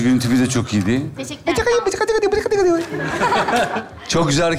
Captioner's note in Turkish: konuşmasını taklit eden sesler